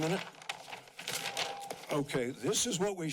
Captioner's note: paper crumples